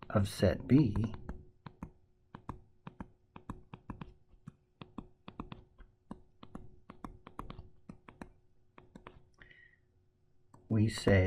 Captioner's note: tapping Sounds